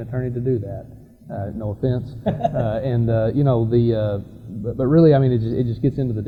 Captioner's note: laughter